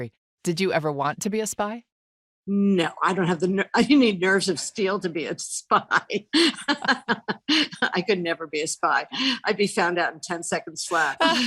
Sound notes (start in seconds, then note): 6.3 laughs